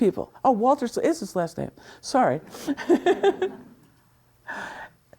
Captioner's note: laughs